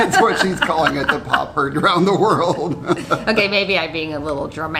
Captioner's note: laughs; laughing